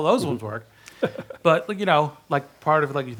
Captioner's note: chuckles